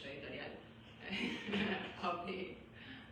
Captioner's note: laughs